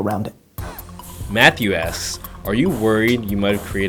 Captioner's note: voiceover